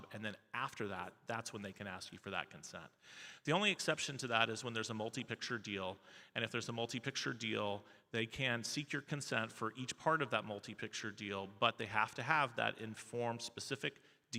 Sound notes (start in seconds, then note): none